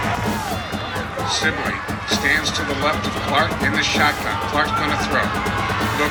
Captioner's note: radio Announcer